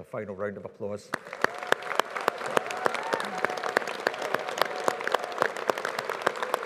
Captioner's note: audience applauding; audience cheering